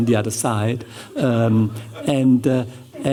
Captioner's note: chuckling